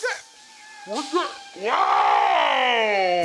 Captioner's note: yelling